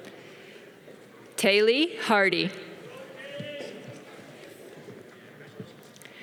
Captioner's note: audience cheering